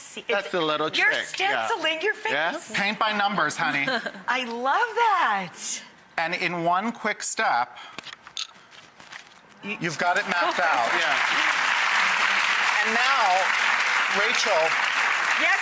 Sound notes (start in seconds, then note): 11.4 applause